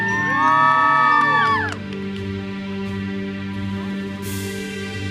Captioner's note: audience cheers and applauds